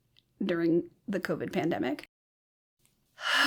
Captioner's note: sighs